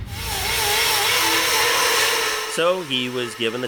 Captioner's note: grinder noise